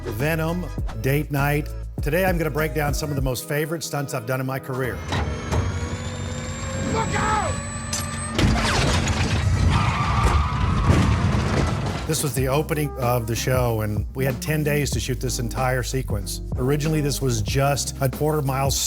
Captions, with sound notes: "Venom", "Date Night". Today I'm going to break down some of the most favorite stunts I've done in my career. [CAR ACCELERATING] Look out! [EXPLOSION] This was the opening of the show, and we had 10 days to shoot this entire sequence. Originally, this was just a quarter mile